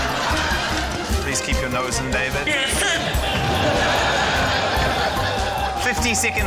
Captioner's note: laughter